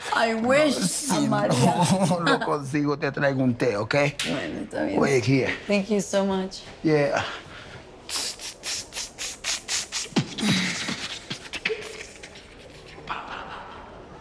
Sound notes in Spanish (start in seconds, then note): 8.0 Hace beatbox